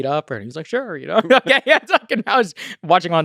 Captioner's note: laughs